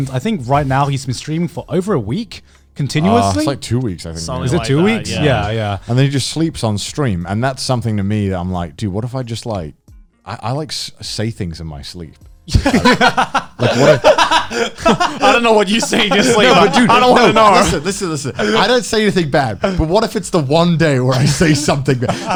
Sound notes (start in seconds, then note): 6.3 affirmative murmuring; 12.5 Joey and Garnt laughing